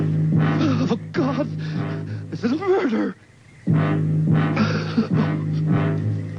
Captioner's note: whimpering